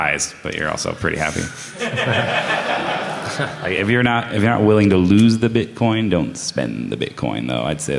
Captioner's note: laughter